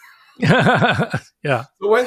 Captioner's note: both laugh